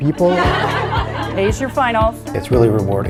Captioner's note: laughter